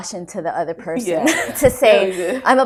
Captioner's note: laughter